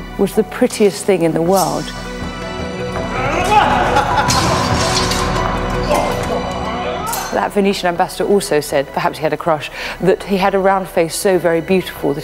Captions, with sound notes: "was the prettiest thing in the world." (men grunt and laugh) (swords clang) That Venetian ambassador also said, perhaps he had a crush, "that he had around face so very beautiful